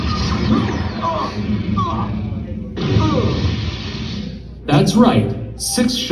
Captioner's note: lame screaming